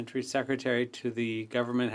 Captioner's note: speaking French